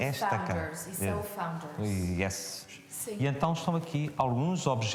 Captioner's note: speaks in foreign language